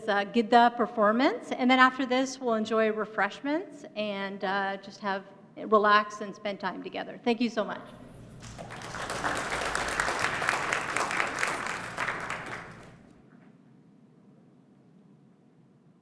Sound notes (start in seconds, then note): 7.9 applause